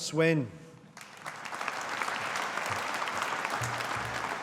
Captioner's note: audience applauding